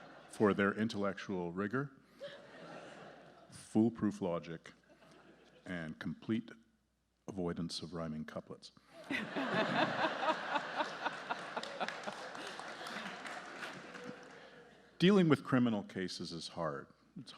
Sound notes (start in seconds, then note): 9.0 justices and audience laughing; 11.6 audience applauding